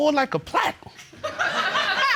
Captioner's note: audience laughing